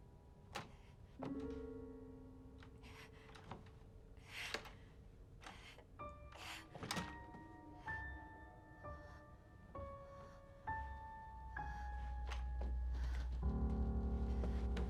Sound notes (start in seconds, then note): 0.6 door clicks; 2.6 breathes heavily; 3.0 door clicks